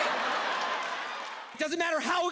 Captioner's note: audience laughs